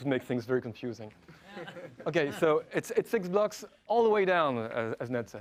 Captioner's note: laugh